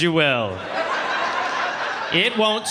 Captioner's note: audience laughing